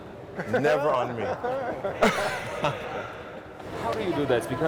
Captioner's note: laughs